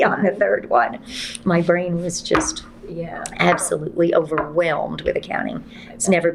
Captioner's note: laughs